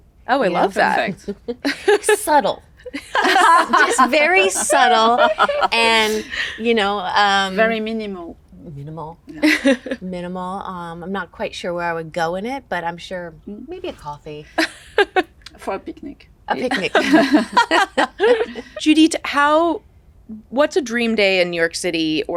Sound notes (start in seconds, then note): 2.8 laugh; 16.6 all chuckle